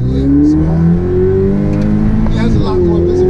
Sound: engine roars

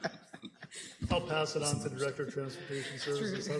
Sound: laughter

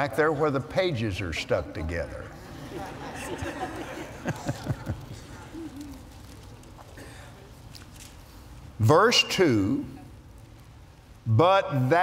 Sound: laughter

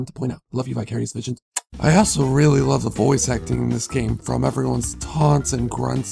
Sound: smooch

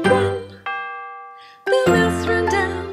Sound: clock chiming

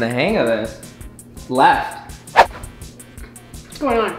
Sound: air whistling

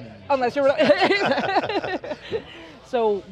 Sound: all laugh

